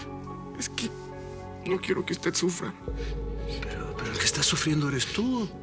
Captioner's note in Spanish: Sollozos